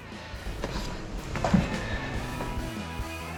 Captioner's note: catching their breath